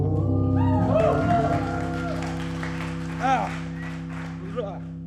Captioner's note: audience cheers